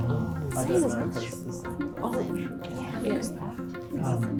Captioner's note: teams murmuring